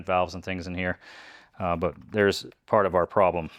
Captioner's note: none